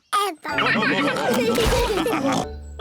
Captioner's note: all laugh